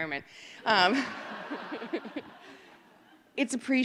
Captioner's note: laughter